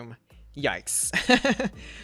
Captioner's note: laughs